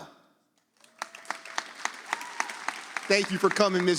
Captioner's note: audience applauds